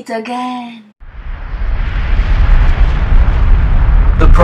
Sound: volcano erupting

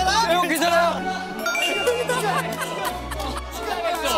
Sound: they all burst into laughter

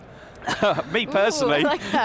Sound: laughs

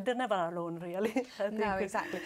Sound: laugh

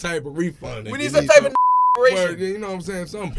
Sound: beep

